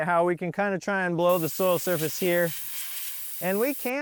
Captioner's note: air hissing